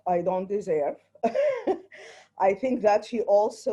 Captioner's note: chuckles